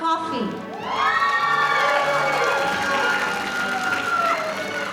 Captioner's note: audience cheering